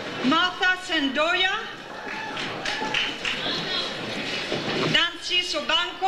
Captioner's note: audience cheers